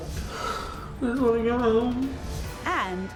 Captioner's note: sniffling